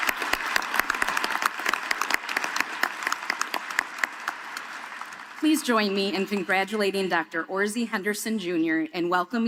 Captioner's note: applause